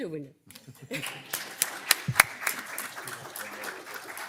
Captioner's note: crowd clapping